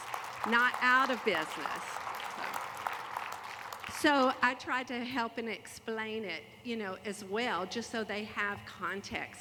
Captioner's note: applause